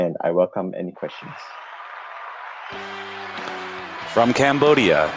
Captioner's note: applause